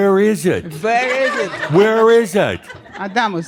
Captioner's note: laughter